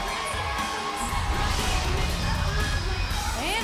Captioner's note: cheers & applause